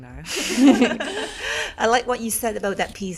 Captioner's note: all laughing